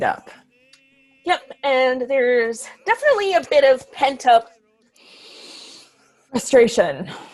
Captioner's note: inhales loudly